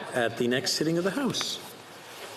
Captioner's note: speaking French